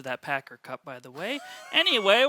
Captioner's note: laughing